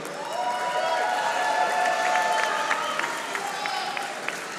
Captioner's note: audience applauding